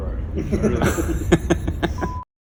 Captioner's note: men laugh